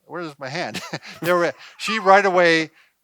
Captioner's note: laughing